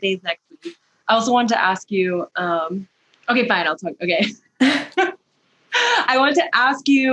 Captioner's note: laughter